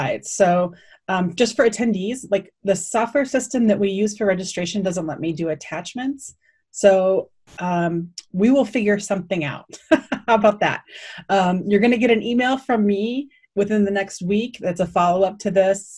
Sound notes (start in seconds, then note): 9.4 laughing